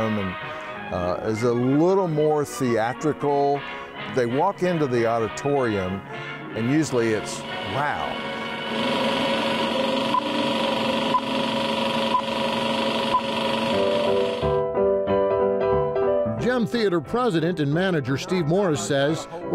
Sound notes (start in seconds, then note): 7.3 engine roaring; 10.2 screen beeping; 13.8 upbeat music